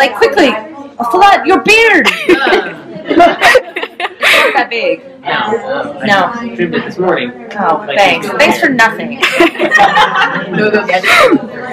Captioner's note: more laughter